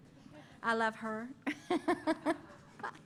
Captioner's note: laughter